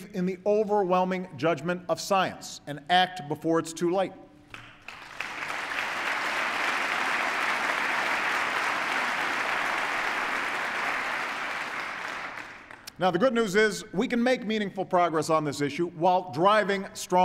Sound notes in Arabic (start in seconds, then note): 8.5 تصفيق